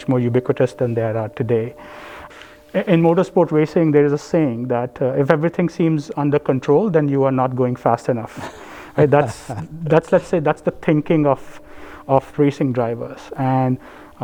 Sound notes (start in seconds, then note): 8.2 laugh